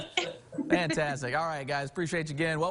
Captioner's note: laughing